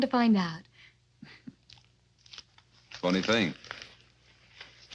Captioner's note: chuckles